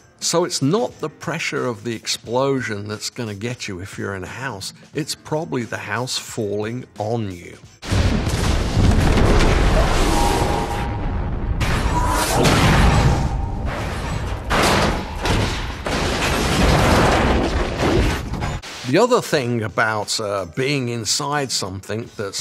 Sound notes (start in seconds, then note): 7.9 explosion booming; 11.5 fridge thumping